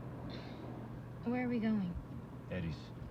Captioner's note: sighs